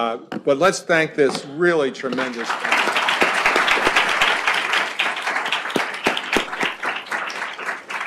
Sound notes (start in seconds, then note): 2.1 applause